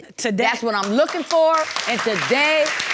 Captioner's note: audience clapping